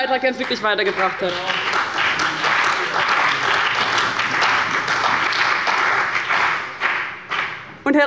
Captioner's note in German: Beifall bei dem BÜNDNIS 90/DIE GRÜNEN und der CDU